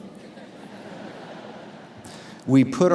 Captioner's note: audience laughs